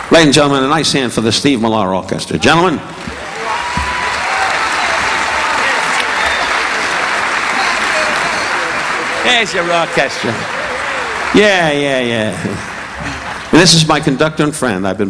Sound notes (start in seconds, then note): 2.9 audience whistling; 3.1 audience applauding